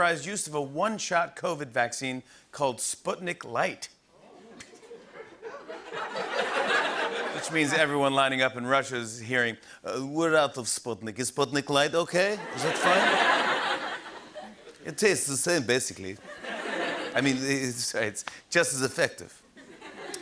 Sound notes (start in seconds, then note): 9.7 Russian accent